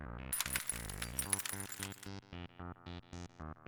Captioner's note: chips clinking